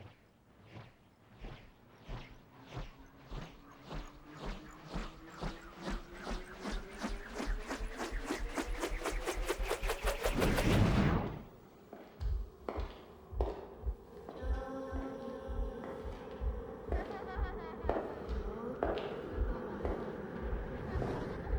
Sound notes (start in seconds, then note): 0.2 airplane propeller starting; 12.5 footsteps